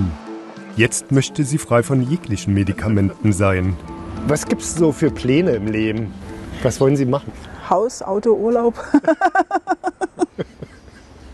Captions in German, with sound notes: Jetzt möchte sie frei sein von jeglichen Medikamenten. Was haben Sie für Pläne im Leben? Was wollen Sie machen? Haus, Auto, Urlaub. *Sie lacht.*